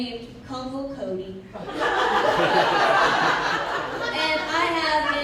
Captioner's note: laughter